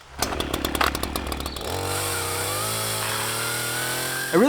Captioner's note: chainsaw growls